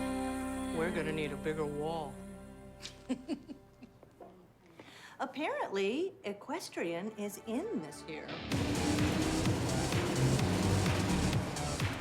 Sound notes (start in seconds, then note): 2.8 Lois chuckles; 8.4 upbeat rock music